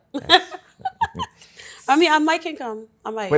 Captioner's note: laughs